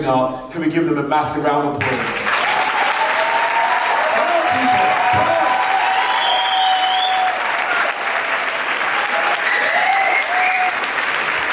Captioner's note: applause time